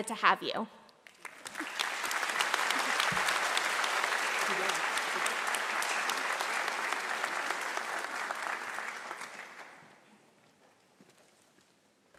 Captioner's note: applause